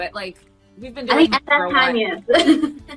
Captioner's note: laughs